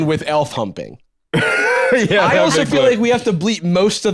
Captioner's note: laughs